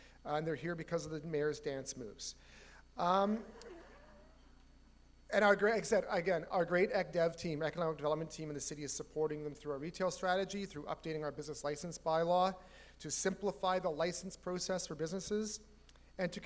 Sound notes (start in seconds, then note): 3.4 audience laughs